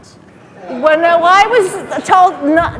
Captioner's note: laughing